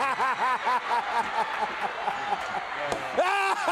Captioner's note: crowd chatter